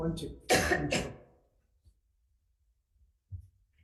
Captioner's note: coughing